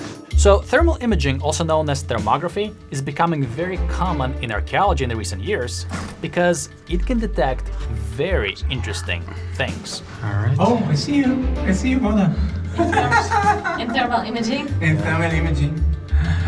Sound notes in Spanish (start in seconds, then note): 12.6 ríe; 16.0 suspira